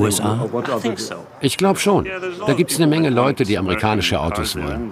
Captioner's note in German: englisch